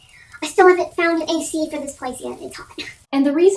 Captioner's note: high-pitched voice